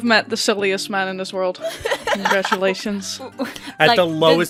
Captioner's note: laughter